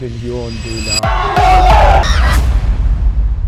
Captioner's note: cheering